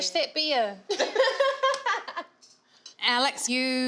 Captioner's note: laughing